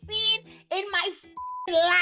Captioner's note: beep